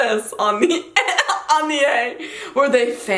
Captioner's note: laughs